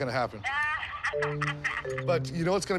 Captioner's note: laughs